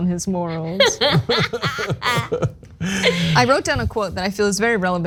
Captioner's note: laugh